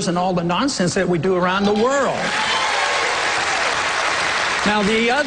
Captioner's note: cheers, applause